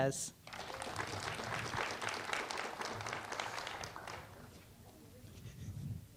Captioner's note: applause